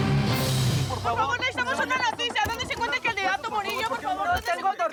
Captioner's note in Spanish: comentarios al unísono